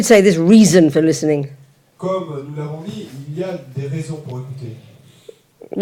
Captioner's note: French